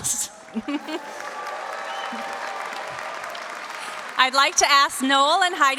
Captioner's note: audience cheers and applauds; laughs